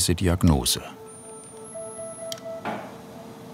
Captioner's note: low machine whirring